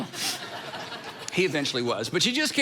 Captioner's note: congregation laughing